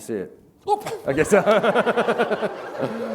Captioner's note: laughter